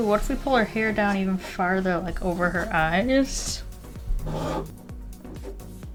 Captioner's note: bangs